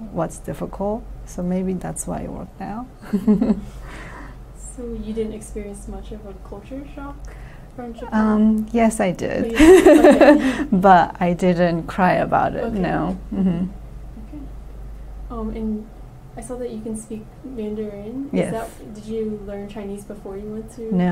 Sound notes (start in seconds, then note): 3.5 laughs; 9.5 laughs